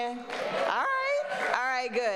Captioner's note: people clapping